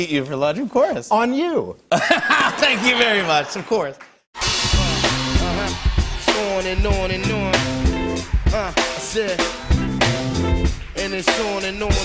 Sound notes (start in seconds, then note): 1.9 laughter